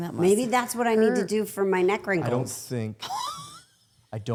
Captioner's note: all laughing